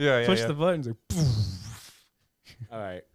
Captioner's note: snarling